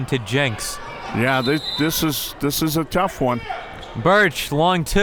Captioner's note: whistle tweeting